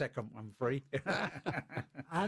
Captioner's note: laughter